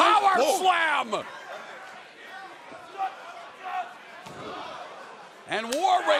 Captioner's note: crowd chatter